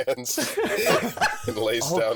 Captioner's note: laughter